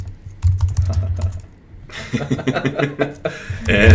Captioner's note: laughter